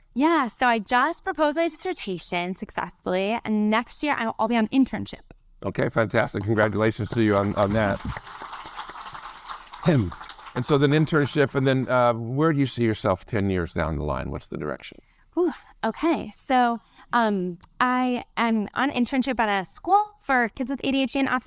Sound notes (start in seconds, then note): 8.0 audience applaud